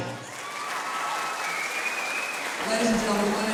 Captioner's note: cheers and applause